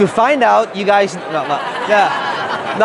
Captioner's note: crowd laughing